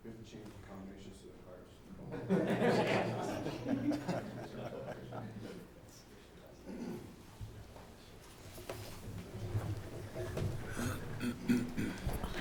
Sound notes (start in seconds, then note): 2.1 laughing